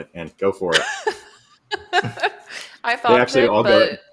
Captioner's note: laughs